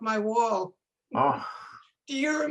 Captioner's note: people laughing